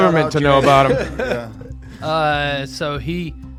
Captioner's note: all laughing